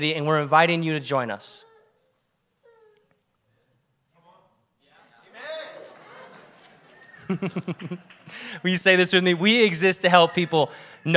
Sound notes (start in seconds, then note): 7.4 preacher laughs